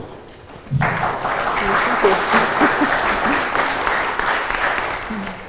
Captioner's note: crowd applauding